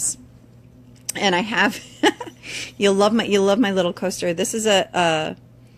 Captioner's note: laughs